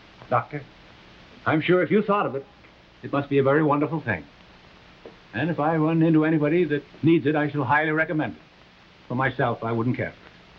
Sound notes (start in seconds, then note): none